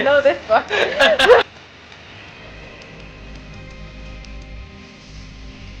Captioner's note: laughing